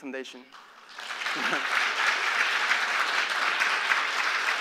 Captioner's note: applause